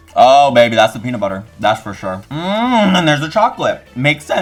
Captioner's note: grunts